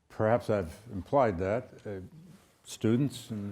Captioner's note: none